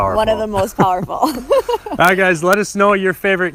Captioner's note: laughs